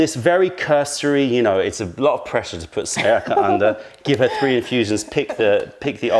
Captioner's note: tasting